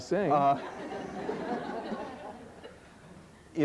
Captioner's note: laughter